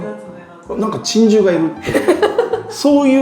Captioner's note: laughing